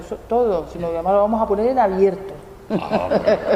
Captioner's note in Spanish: risas